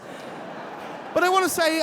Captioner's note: audience laughing